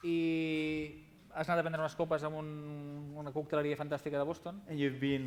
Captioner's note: non-english speech